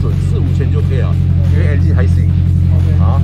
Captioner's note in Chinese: 引擎